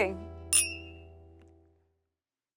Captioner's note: glasses clink